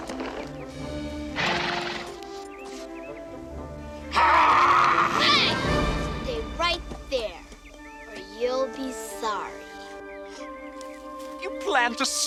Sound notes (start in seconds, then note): 1.2 horse chuffing